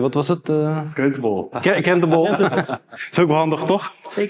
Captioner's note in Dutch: gelach